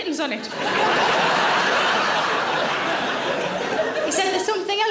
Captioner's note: audience laughing